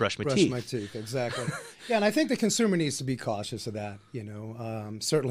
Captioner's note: laughs